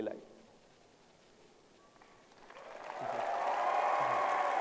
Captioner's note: applause